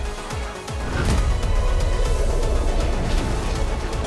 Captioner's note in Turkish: Dövüş sesleri